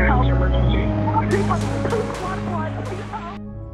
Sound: gunfire thundering

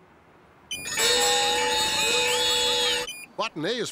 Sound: sound of alarms, whistles, and bells going off

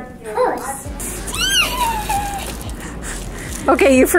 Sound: squeaking

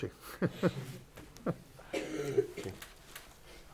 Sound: laughs

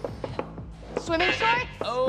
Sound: buzzer

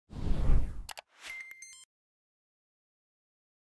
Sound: soft beep

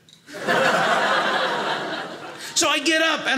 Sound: audience laughing

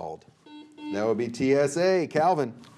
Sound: buzzer beeping

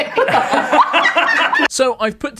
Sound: laughs

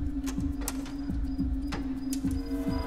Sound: beeping

